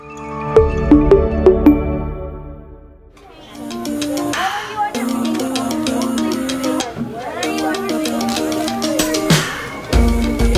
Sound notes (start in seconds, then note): 0.1 soft melodic music; 3.2 children chatting; 3.3 snappy, playful music